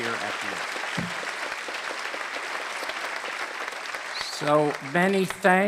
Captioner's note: applause